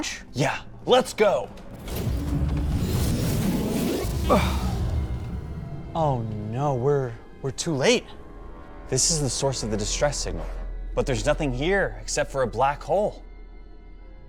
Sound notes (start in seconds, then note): 2.3 both groan; 2.3 whizzing; 4.3 both sigh; 7.4 mysterious music plays